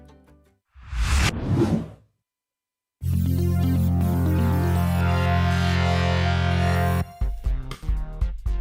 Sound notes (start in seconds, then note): 0.8 wind whooshing; 3.1 upbeat music